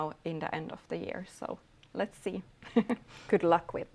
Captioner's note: chuckles